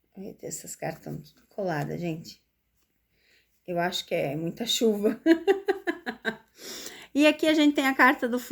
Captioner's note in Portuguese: risadas